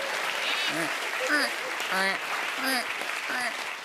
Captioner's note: imitating creaking floorboards